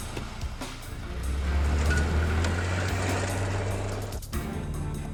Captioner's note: engine starts; engine revving